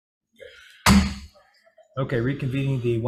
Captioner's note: gavel bangs